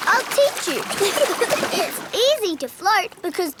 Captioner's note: giggling